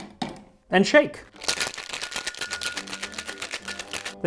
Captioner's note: rattle rattle